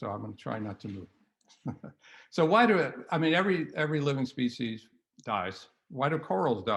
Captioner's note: laughter